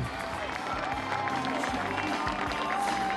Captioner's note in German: Applaus, Musik